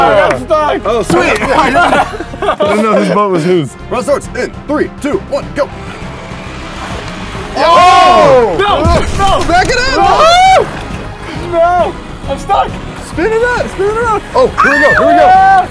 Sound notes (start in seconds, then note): 7.4 all screaming